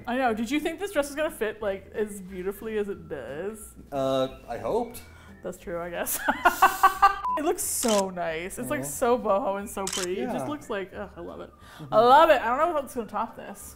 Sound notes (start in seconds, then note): 6.1 laughs